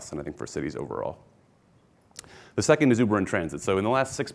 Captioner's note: none